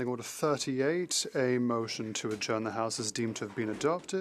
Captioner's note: speaking French